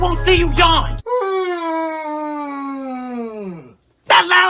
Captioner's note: yawns